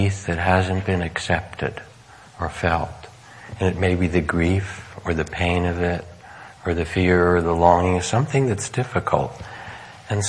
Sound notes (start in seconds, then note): none